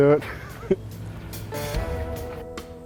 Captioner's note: laughs; slow melodic music